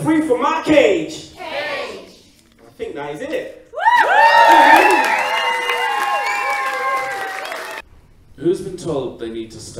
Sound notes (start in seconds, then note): 7.4 applause